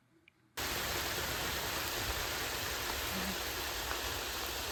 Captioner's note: rain pattering